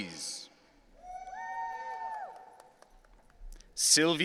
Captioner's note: audience cheering